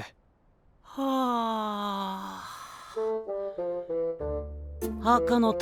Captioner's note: yawn